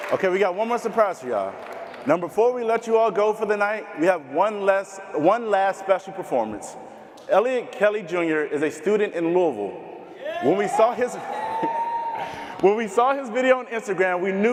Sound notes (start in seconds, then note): 10.2 crowd cheering